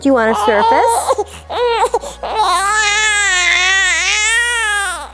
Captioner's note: baby wailing